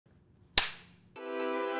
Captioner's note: slate clap; intro music